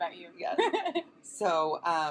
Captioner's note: laughs